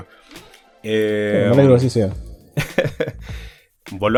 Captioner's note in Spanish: risas